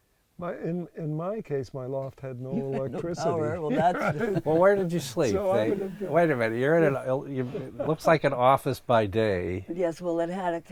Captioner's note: laughs